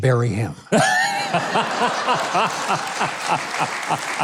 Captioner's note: crowd laughing